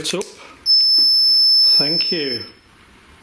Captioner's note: REM pod beeping